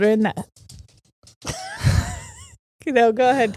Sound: tapping noises off-camera; both laughing

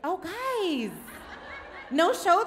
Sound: crowd laughs

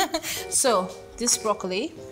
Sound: chuckling

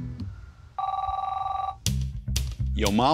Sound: phone rings

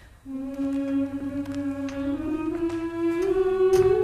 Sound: continues to hum the tune

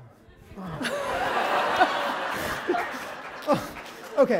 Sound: laughter

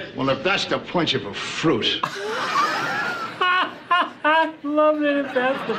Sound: laughs

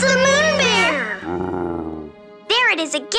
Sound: roaring

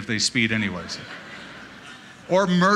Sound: laughter

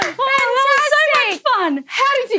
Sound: clapping

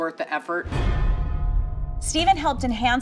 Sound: percussive hit

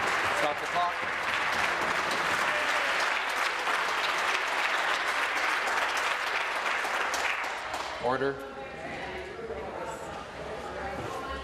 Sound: applause

